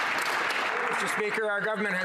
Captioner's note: some Applause